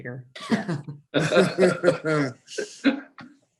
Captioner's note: laughs